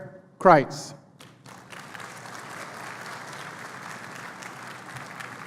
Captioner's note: applause